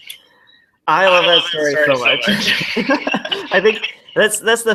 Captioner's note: laughs